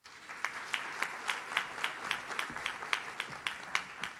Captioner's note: audience claps